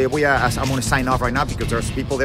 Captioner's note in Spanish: hablando inglés